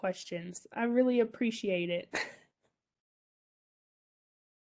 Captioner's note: chuckles